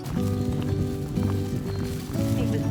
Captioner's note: footsteps